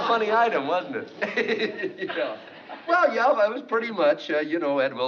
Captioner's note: laughs